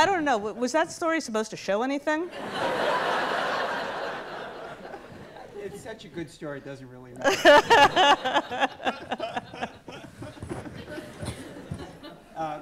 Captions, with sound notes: But I don't know, was that story supposed to show anything? (audience laughs) - It's such a good story it doesn't really matter. (everyone laughs)